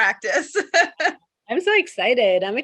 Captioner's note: chuckles happily